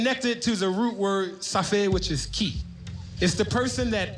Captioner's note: speaking in foreign language